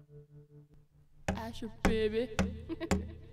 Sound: giggles

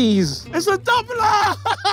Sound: laughs

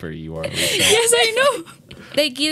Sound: laughs

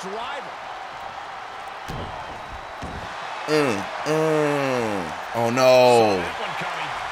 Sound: applause

